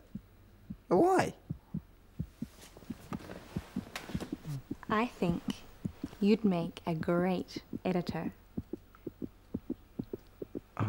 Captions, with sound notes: But why? (rapid heart beating) - I think you'd make a great editor.